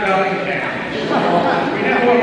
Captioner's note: laughing